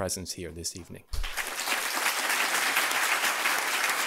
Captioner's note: applause